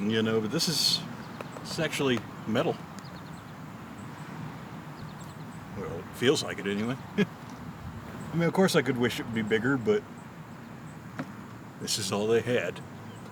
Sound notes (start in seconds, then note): 4.1 soft knocking; 6.7 chuckles